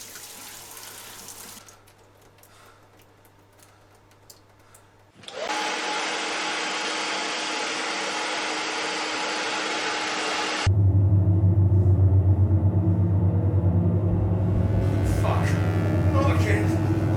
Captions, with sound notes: (dryer blowing) (electric buzzing) Oh fuck, not again!